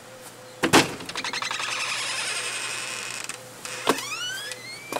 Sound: door creaking open

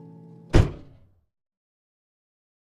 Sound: car door closes

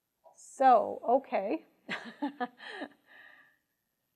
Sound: chuckling

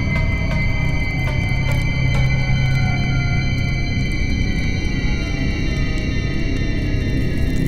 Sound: sound of ancient door opening

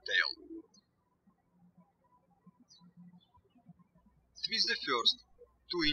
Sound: birds chirping

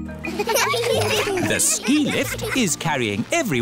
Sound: laughter

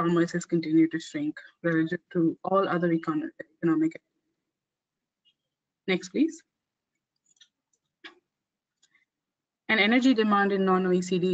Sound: audio static

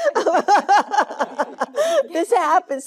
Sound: Jane laughing

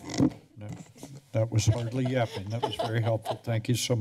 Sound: laughter

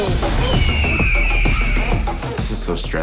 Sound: eagle sound

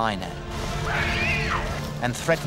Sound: rebel screams

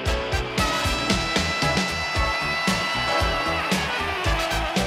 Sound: people cheering

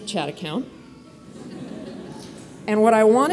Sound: audience laughs

